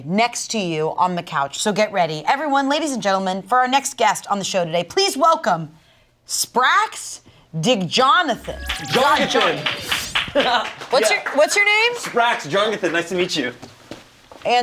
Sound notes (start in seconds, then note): 8.3 people clapping